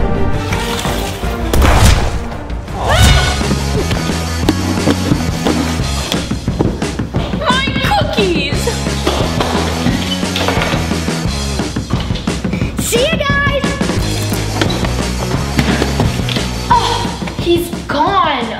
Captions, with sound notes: (explosion) (rock music instrumental) My cookies. (rock music instrumental) - See you, guys. - Oh he's gone.